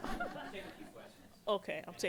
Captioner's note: voiceover